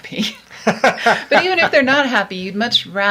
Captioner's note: laughs